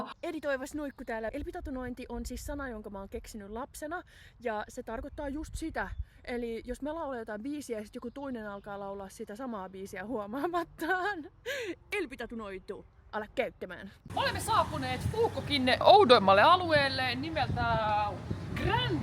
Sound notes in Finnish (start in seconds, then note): 11.5 naurua